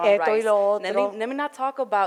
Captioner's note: foreign language